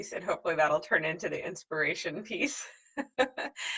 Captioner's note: laughs